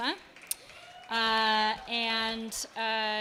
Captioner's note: attendees clapping and cheering